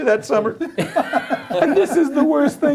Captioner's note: laughing